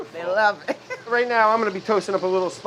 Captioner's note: laughs